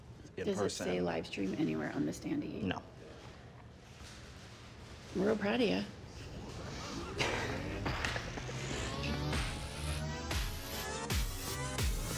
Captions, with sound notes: In person. - Does it say livestream anywhere on the standee? - No. - Real proud o' ya. (both laughing) (audio warbling)